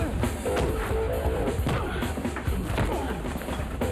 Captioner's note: upbeat music; men grunt